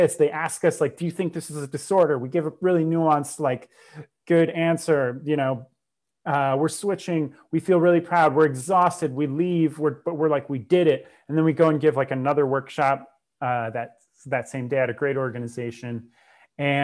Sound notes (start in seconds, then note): 3.6 breath